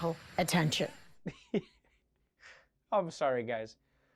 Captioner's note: laughs